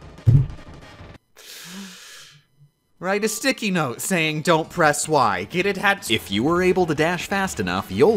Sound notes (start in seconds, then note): 0.2 thump; 1.4 sigh